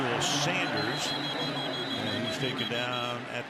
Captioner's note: whistle